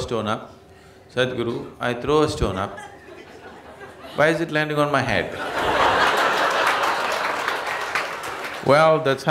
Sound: laughter/Applause

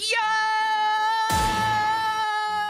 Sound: Tony Hawk Stunt FX

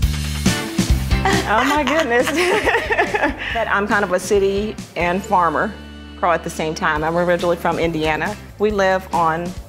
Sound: laughter

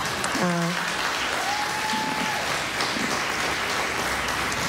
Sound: laughter, applause

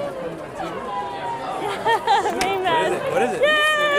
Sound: laughs

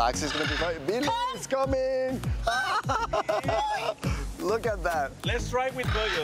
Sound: surprise & Laughter

